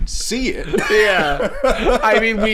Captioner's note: laughing